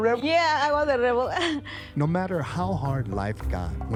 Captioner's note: chuckles